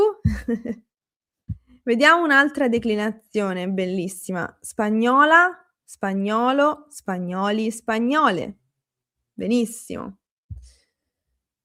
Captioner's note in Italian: risate